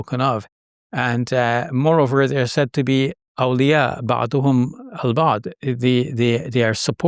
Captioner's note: speaking Arabic